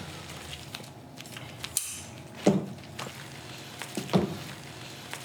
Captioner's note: scissor snip